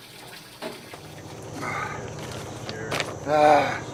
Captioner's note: grunting